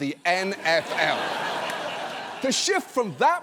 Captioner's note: audience laughs